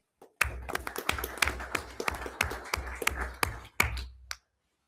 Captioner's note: everyone applauds